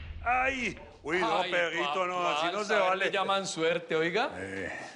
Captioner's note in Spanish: Hablan al unísono